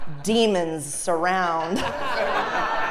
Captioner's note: laugh